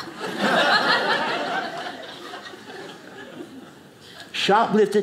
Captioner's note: audience laughing